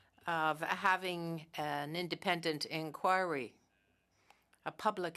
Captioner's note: speaking French